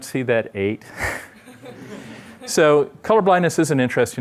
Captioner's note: laughter